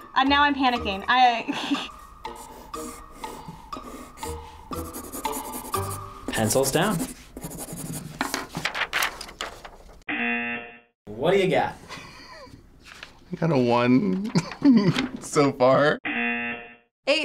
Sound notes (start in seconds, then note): 10.2 buzzer rings; 14.3 laughs; 16.1 buzzer rings